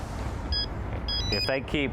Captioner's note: phone ringing